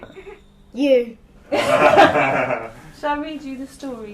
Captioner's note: laughing